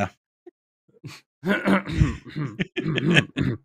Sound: laughter; clears throat

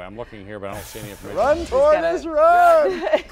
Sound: laughter

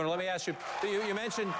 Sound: applause

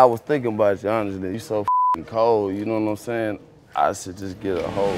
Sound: beep

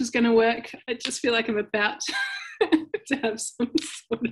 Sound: chuckling

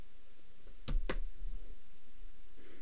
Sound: clicking

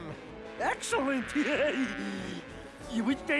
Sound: chuckle

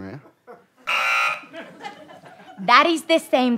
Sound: buzzer

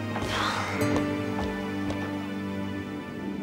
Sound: exhales

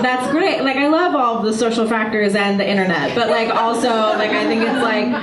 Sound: audience laughter; audience laughter

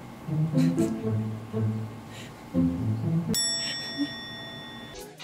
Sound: laughing

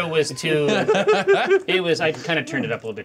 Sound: co-hosts laughing

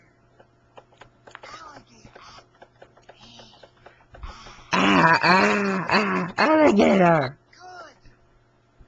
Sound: throws up

